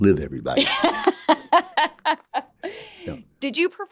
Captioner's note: laughing